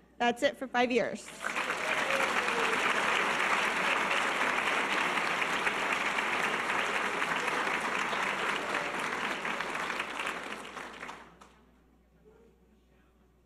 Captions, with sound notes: That's it for five years. (audience applause)